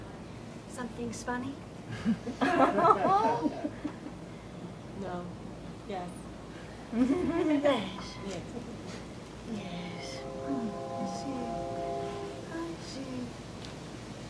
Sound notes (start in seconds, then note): 1.9 laughter; 6.9 laughter